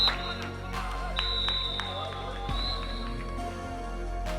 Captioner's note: clapping; referee's whistle